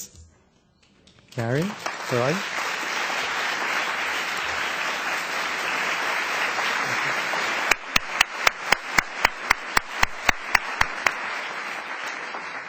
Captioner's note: applause